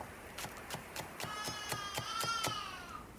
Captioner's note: chopping, baby crying